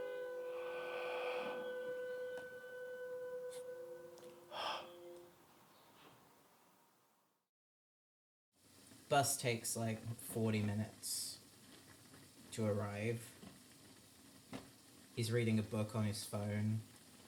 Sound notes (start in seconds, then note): 0.5 breath; 4.5 breath; 5.3 silence